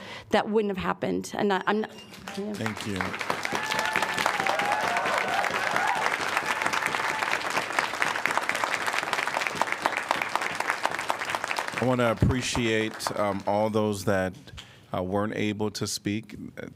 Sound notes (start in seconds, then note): 6.5 applause